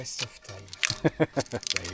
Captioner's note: laughing